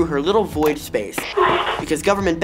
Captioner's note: static